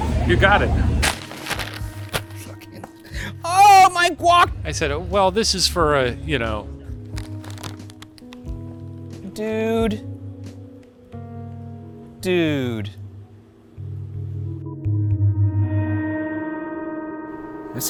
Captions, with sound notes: - You got it. (bag rustles) - Fucking. Oh, my guac! - I said, "Well, this is for a, you know." - Dude. (somber music) Dude. (eerie music)